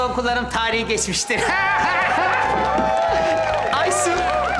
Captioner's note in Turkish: Gülme sesleri